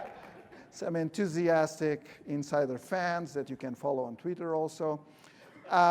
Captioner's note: laughter